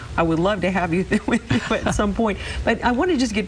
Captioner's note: laughing